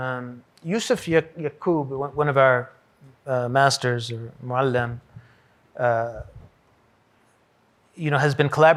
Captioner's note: hebrew